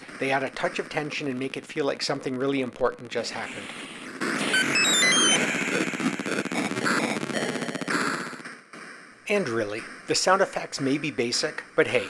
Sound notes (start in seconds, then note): 4.3 explosions followed by a high pitched alert tone